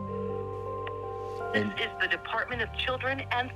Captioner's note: on phone